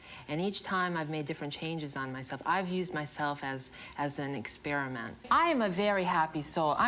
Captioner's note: none